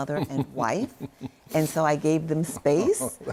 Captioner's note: laughs